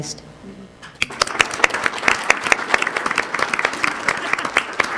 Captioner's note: crowd applauding